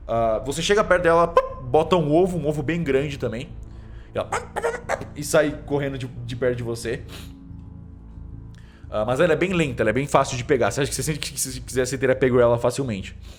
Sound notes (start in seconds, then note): 1.4 imitates chicken; 4.3 clucks